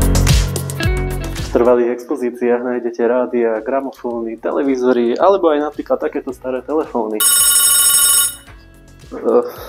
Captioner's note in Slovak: zvoní telefón